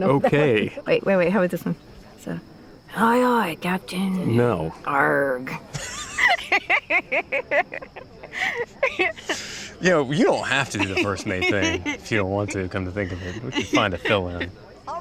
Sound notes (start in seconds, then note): 2.6 imitating pirate; 5.7 both laughing